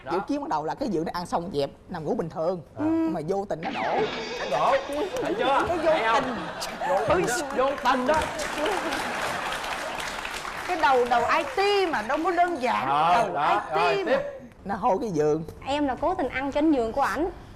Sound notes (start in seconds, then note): 4.1 laughing; 8.5 applause